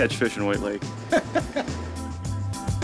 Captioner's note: chuckling